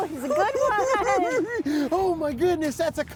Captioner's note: cackling